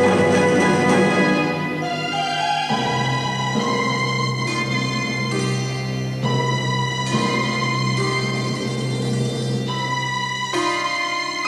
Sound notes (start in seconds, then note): none